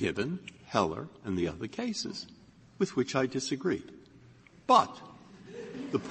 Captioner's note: laughter